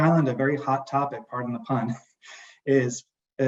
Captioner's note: laughs